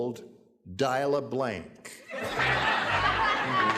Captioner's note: laughter